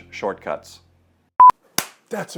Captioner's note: beep; clap